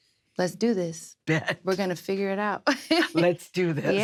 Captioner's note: laughs